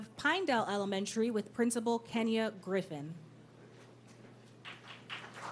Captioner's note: applause